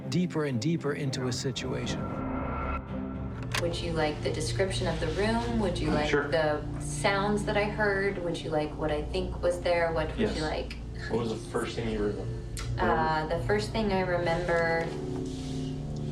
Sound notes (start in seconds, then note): 2.4 clicking